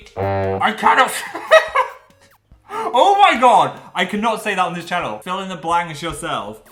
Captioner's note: laughs